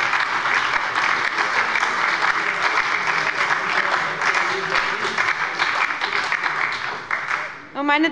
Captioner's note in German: Beifall bei der SPD und der LINKEN